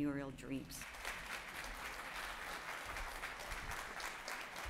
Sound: audience clapping

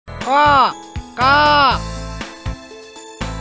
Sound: crow noises

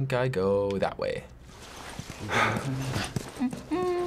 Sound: rustling, faint conversation

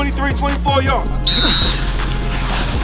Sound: whistle

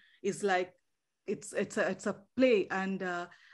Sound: none

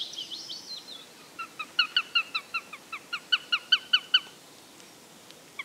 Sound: bird calls

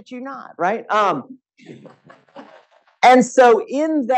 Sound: audience laughing

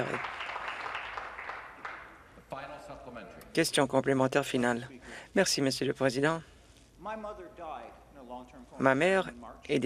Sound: applause

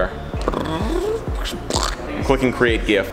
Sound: makes mouth noises

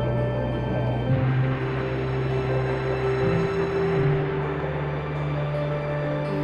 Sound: jet engines

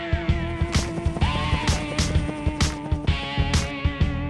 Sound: helicopter blades whirl; lively music

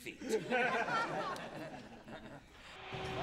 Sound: laughter

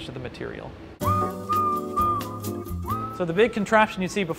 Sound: whistling

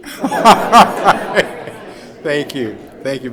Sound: laughing

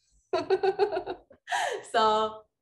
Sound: laughing

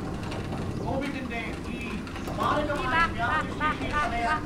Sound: news on TV cont

